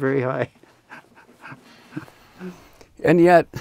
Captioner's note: laughs